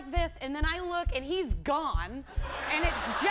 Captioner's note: laughter